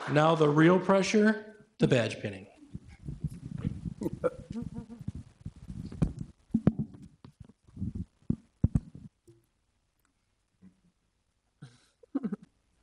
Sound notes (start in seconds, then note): 4.0 people chuckle